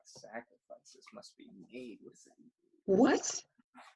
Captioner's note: quietly